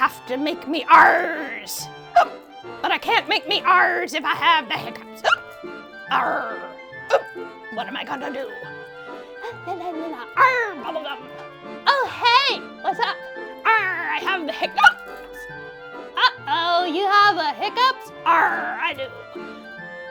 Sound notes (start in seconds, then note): 0.0 hiccups; 7.0 hiccups; 14.7 hiccups